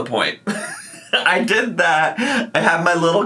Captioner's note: laughing